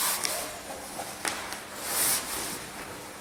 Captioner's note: sleeping bag putting in noises